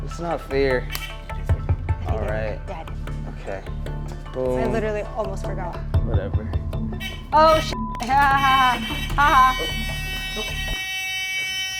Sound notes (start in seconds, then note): 7.6 beep; 9.0 hooter buzzing